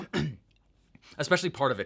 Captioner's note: clears throat